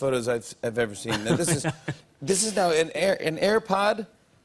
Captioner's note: laughs